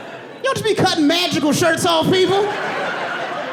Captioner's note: audience laughing